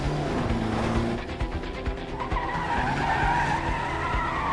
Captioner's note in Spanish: ruido agudo de neumáticos